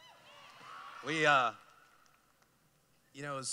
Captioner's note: cheering